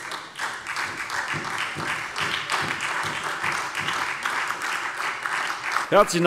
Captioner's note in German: Beifall SPD